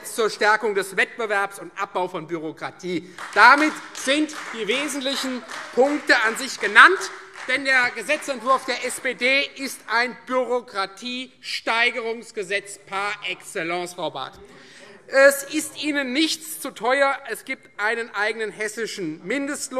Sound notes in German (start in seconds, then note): 3.0 Beifall Freie Demokraten